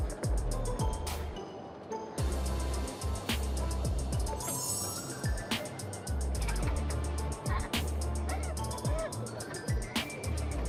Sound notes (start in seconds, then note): 0.2 mischievous music; 6.2 girls giggling